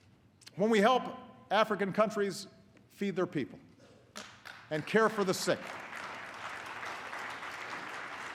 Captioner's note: applause